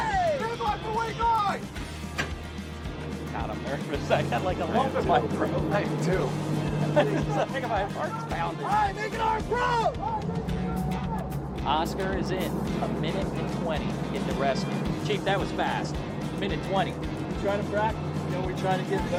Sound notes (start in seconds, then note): 1.3 upbeat music playing; 9.8 people mumbling